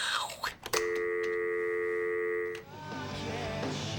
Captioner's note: making static noise; dial tone; rock music playing